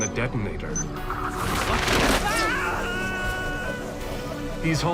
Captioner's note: wire whistling